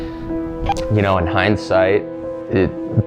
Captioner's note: none